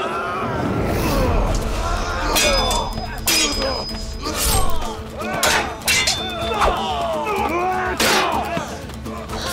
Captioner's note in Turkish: Dövüş sesleri